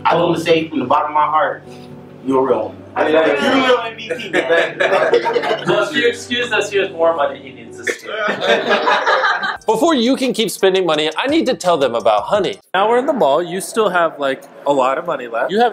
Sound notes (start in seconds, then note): 4.1 family laughing; 8.0 family laughing